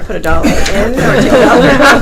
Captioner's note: laughing